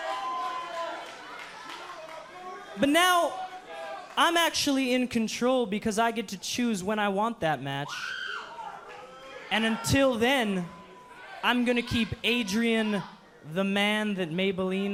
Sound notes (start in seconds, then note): 5.6 cheers & boos